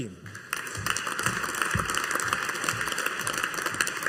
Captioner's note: audience applauding